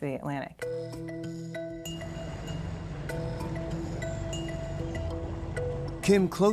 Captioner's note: playful music; boat engine roaring